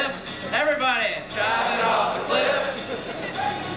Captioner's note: chuckles